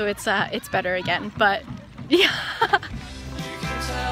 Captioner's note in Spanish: risas